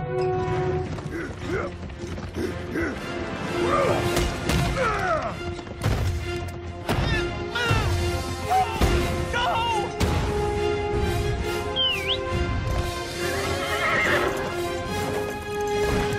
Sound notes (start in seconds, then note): 0.3 Cyclopses grunting; 11.7 whistling; 13.2 neighing